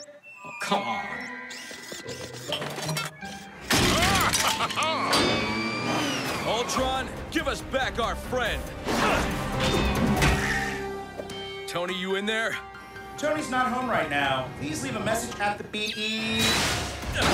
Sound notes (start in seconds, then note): 3.7 crash; 3.9 laughs